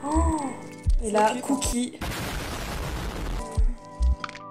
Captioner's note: boom